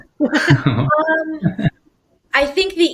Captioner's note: laughing